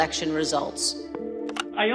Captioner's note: telephone dialing out, picks up